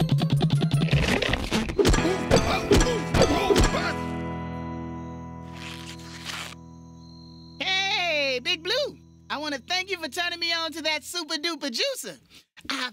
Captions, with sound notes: (grunting) HEY...BIG BLUE! I WANNA THANK YOU FOR TURNING ME ON TO THAT SUPER, DUPER JUICER.